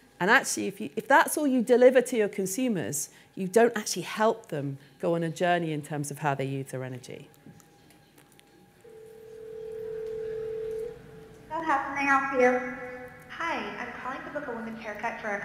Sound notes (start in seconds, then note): 8.8 phone ringing